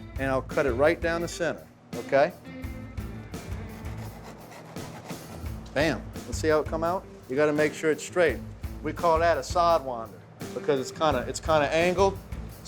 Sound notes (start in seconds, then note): 3.7 slicing sound